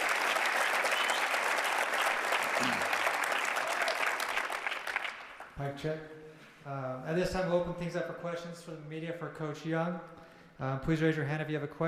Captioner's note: cheers and applause